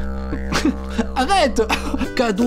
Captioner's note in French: rire